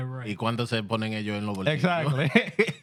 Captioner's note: speaking In Foreign Language